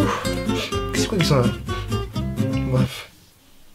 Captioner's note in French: renifle